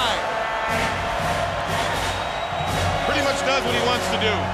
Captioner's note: crowd cheering